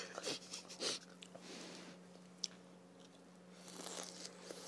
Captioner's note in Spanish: Soplo